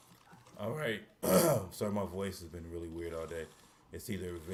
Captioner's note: clears throat